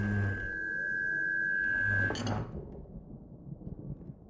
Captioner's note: feedback intensifies